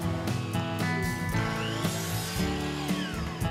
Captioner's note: saw whirring